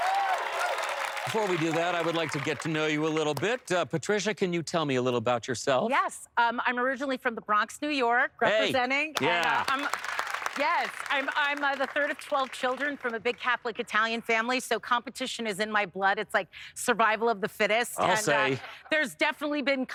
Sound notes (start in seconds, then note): 9.1 applause